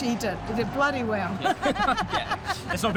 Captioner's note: laughs